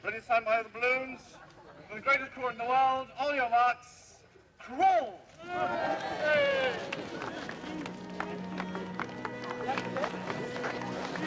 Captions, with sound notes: Ready sound by the balloons, for the greatest crawler in the world, on your marks, crawl! (students cheering) (reporters clapping)